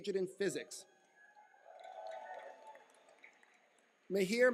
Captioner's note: cheering